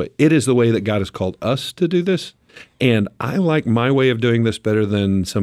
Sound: none

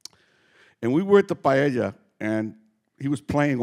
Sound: speaking Spanish

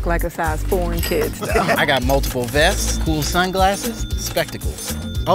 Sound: laugh

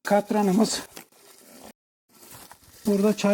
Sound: the sound of footsteps and stones and grass

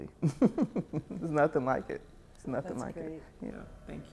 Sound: chuckles

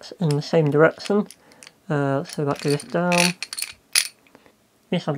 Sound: grating ratchet noises

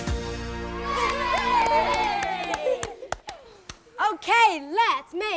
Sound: cheering and clapping

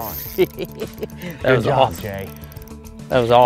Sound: chuckling

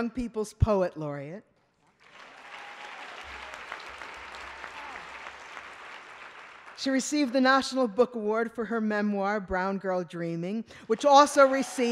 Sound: applause

